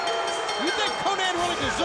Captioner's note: bell ringing; crowd cheering